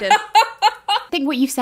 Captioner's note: both laughing